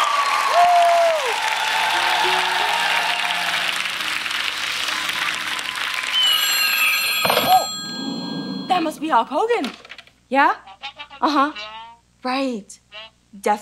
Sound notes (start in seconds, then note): 0.0 audience applauding; 6.0 phone ringing; 10.7 over the phone muffled speaking